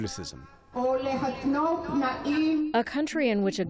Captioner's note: through translator